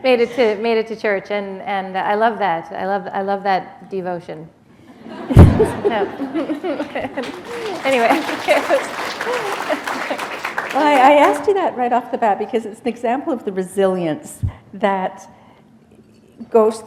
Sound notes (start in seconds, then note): 6.6 laughter; 7.1 applause